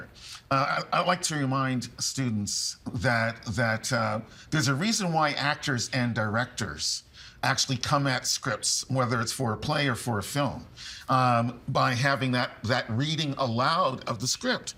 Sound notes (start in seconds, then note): none